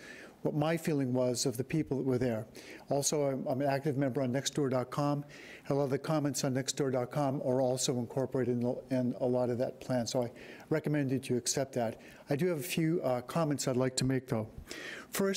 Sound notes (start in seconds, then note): none